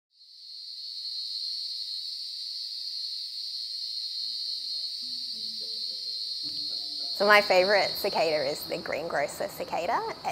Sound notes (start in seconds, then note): 0.4 insects chirping